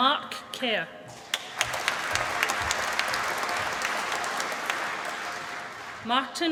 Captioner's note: applause